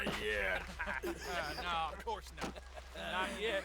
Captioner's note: laughs